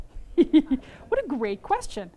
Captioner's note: chuckle